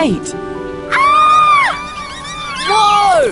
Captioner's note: screams